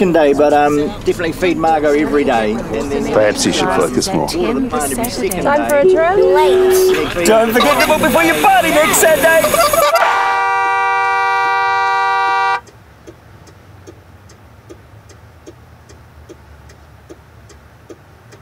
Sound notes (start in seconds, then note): 9.8 horn blares; 13.8 indicator ticks